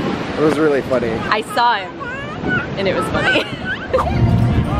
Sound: laughs; light guitar music

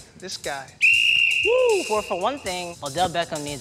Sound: whistle blows

